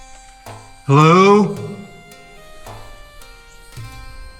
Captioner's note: echo fading